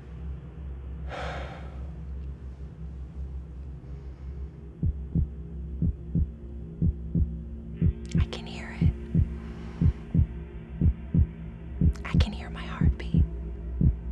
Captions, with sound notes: [low heart beat] [whispering] I can hear it. [whispering] I can hear my heart beat.